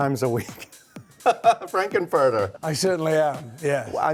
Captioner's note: laughs